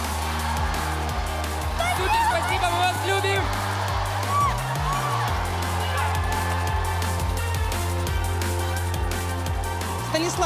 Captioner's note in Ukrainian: оплески